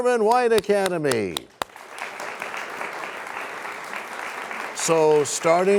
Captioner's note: applause